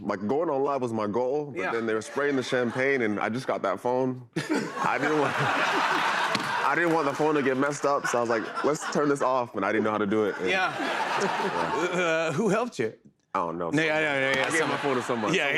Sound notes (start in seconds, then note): 5.8 laughter; 11.1 laughter